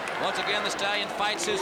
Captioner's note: crowd chatter